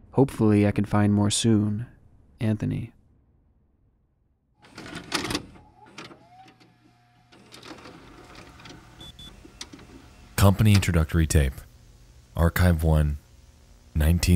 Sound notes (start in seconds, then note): 4.8 cassette clacks; 6.2 VHS machine whines